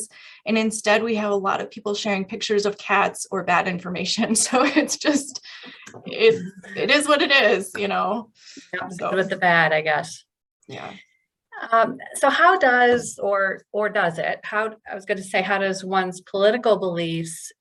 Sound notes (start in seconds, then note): 4.4 laughter